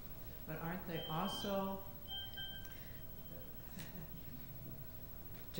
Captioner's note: phone beeping